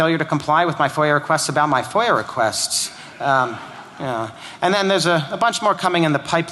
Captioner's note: laughter